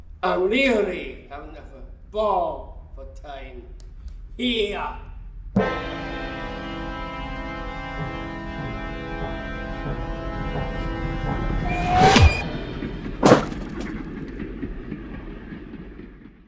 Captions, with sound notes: I’m really having a ball of a time, here. [Sound of train approaching, dramatic music] [Sound of train whistle and body falling. Train sweeps past]